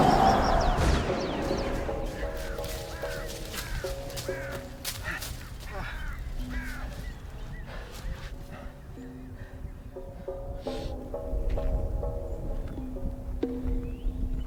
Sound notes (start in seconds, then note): 0.0 shots firing; 0.0 dramatic music